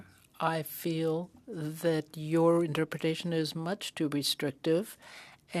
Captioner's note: speaking French